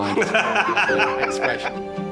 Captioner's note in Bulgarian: смях